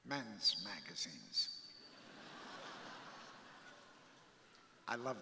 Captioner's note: crowd laughing